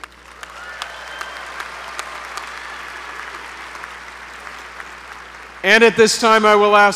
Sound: applause

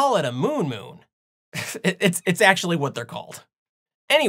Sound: giggle

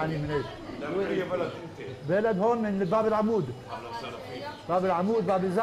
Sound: Arabic

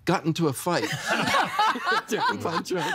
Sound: everyone laughing

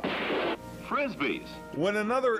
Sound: gunshot

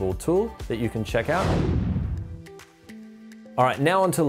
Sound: swoosh

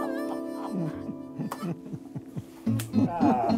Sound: laughing

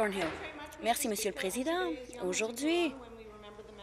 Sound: speaking Alternate Language

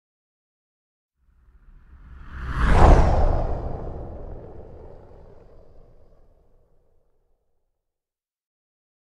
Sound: sound of burning asteroid

